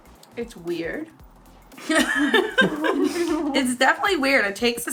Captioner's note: laughing